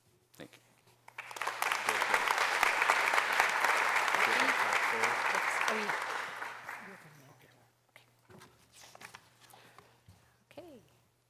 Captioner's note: applause